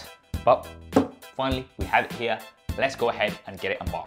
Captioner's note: box thuds